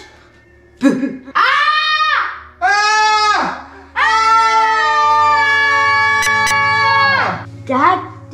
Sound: screams

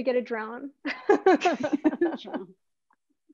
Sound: laughter

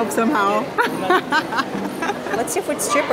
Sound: laughs

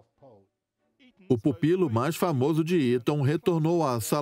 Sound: voiceover

